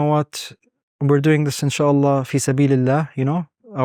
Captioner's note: speaking Arabic